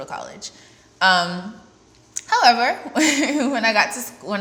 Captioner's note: laughs